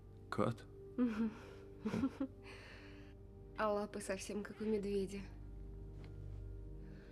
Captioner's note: chuckles